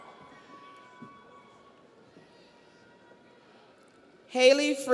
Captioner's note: audience cheers